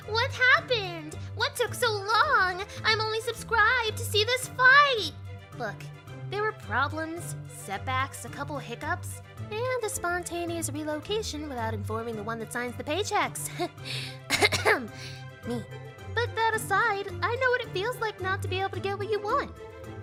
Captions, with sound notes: "What happened?! What took so long?!" "I'm only subscribed to see this fight!" Look, there were problems, setbacks, a couple hiccups, and a sponteanous relocation without informing the one that signs the paychecks Heh... *cough* *cough* Me. But that aside, I know what it feels like not to be able to get what you want.